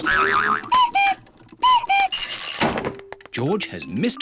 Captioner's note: clock cuckoos